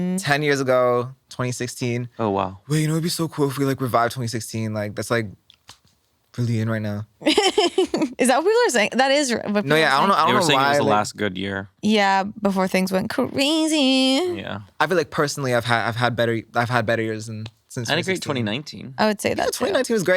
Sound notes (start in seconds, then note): 7.2 laughs